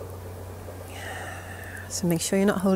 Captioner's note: exhaling